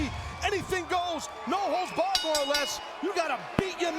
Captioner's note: bell ringing